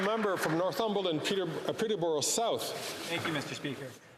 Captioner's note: some Applause